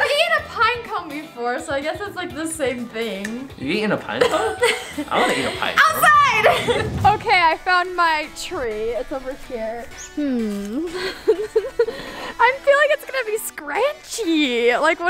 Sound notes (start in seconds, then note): 10.4 laughs